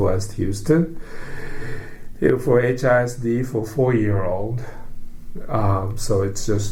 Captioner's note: deep breath